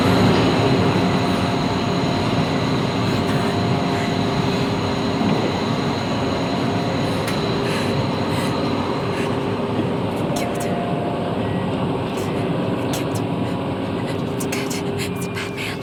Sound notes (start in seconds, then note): 1.7 whirring continues